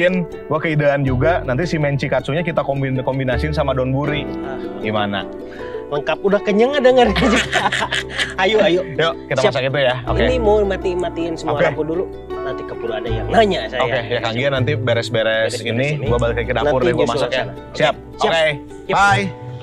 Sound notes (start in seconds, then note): 7.0 laughs